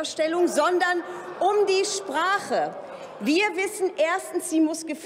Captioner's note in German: Lachen bei der AfD